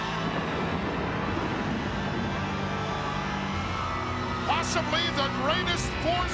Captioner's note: ominous music continues; thunder rumbles